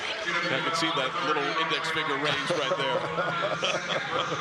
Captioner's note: laughter